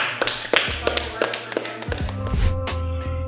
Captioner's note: everyone clapping; groovy music